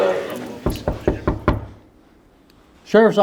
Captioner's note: knocking on door